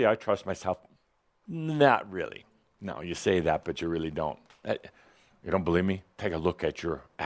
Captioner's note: none